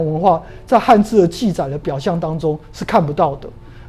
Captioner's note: chinese words